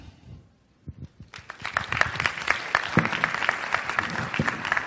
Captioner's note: applause